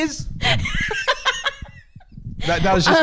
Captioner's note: laughing